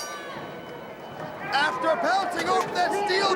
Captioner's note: crowd cheering; bell ringing